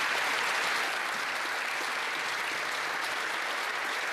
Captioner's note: some Applause; applause